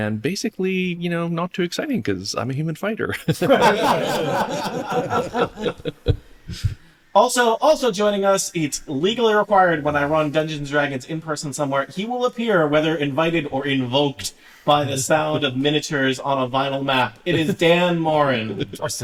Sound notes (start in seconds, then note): 3.2 laughter